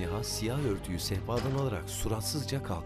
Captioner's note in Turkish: Kapı kapanma sesi